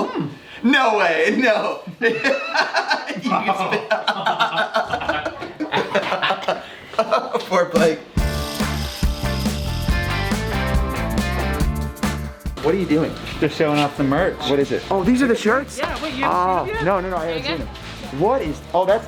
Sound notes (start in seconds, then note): 2.0 laughing; 4.8 gags; 5.9 laughing; 8.1 upbeat music